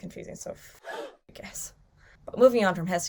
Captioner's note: gasps